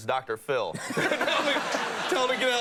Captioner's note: audience laughing